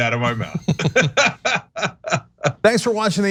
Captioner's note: laugh